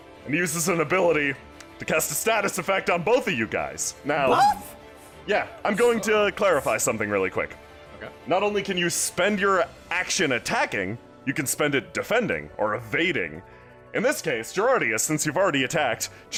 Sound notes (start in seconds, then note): 4.2 surprised